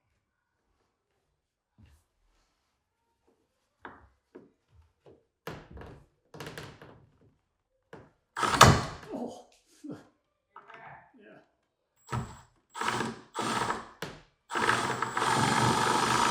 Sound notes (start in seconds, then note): 8.4 machine whirring continues; 14.5 machine whirring